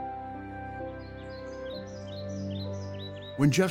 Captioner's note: bird chirping